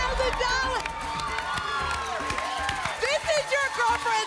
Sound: applause and cheering

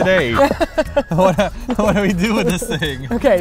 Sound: M: laughs; laughs

